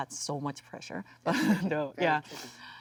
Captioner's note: Jung laughs